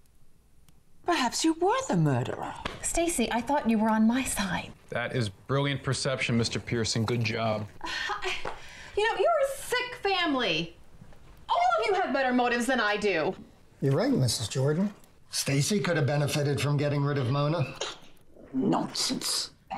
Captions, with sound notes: Perhaps you were the murderer. - Stacey, I thought you were on my side. - That is brilliant perception, Mr. Pearson, good job. - (stammers) You know, you are a sick family. All of you have better motives than I do. - You're right, Mrs. Jordan. Stacey could've benefited from getting rid of Mona. - (scoffs) Nonsense.